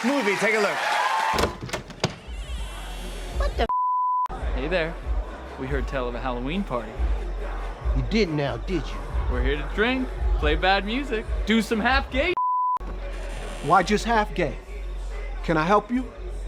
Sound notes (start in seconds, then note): 1.3 door creaking